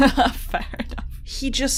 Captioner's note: laughs